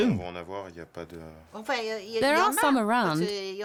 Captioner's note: both speaking French